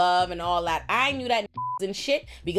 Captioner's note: beep